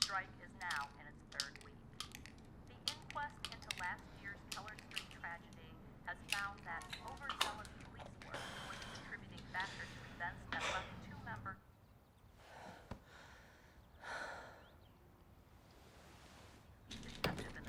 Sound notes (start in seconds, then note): 2.2 tablets clicking; 14.2 Bryn exhales sharply